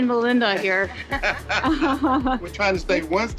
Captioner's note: all laugh